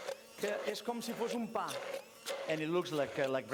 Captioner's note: non-english speech